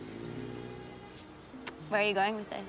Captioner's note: car departs